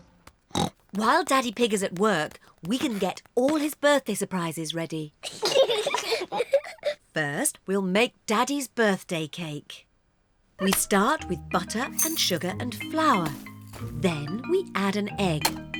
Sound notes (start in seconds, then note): 0.5 oinks; 5.2 both giggle